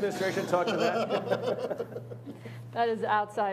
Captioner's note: laughing